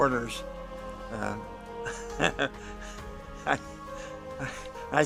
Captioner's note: laughs